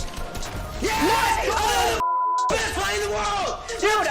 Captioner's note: beep